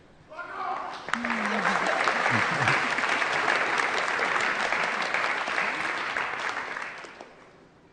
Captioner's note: applause